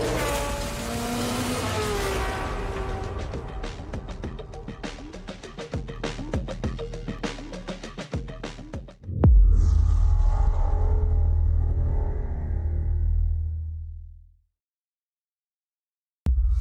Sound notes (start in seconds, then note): 0.0 engines roaring; 13.4 transition sound